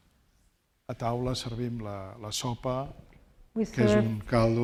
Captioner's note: speaking spanish